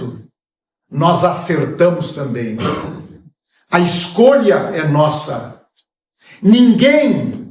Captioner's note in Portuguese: limpando a garganta